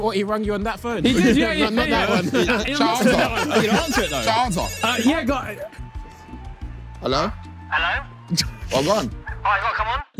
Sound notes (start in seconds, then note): 2.8 phone ringing